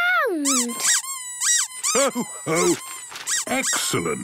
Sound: squeaking

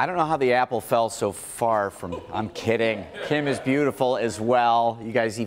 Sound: laughter

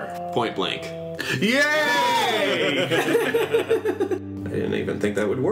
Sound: laughing

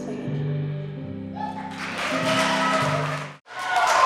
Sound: applause

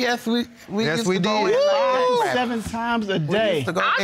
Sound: exclaiming

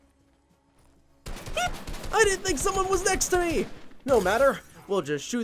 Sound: squeaking

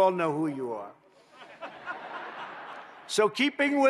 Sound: laughter

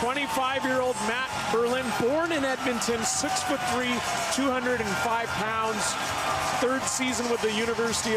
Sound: crowd cheering

